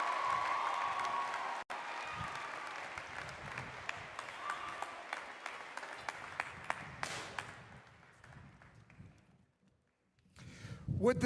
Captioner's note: applause